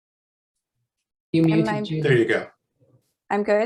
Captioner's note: automated Voice